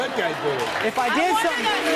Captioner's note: audience clap; audience boo's